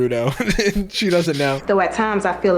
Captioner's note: laughing